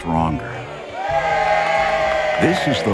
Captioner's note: cheering